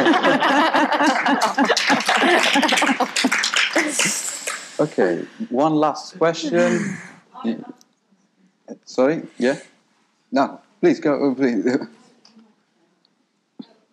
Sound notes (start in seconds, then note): 0.0 people laughing; 1.7 audience applauding